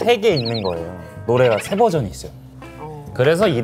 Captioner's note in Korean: ㅋㅋ